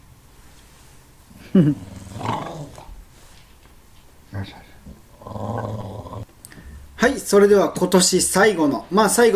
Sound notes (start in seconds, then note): 1.4 growling; 4.2 growling